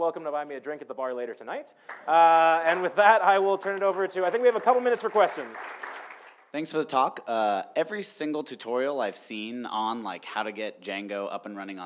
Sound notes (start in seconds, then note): 6.0 audience applauding